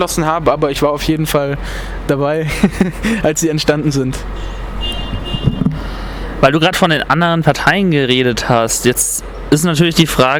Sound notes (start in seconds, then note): 2.4 laughts